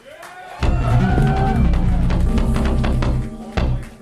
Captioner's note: audience cheering